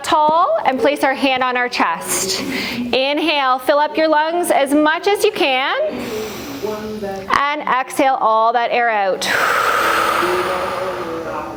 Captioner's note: breath